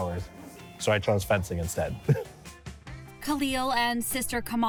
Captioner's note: laughs